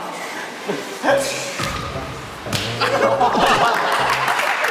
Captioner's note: smack